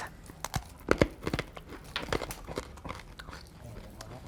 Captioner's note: crunching